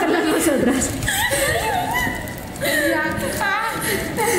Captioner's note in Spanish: risas